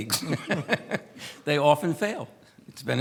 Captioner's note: laughs